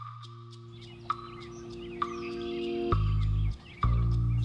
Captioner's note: birds chirping